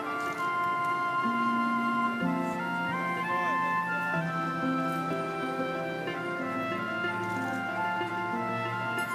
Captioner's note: camera shutter clicks; excited chatter